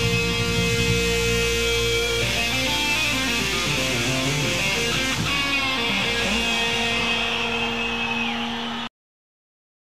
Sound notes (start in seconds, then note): 7.1 crowd cheering